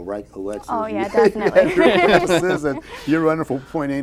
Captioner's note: laughter